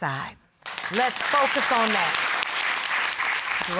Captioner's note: audience applauding